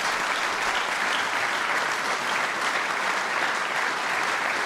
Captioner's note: applause